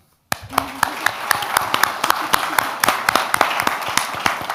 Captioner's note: audience applauds